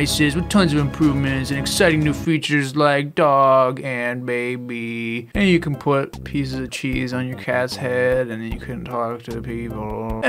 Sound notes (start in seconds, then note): 5.3 significantly more disinterested voice